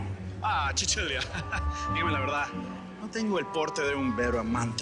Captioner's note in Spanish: En italiano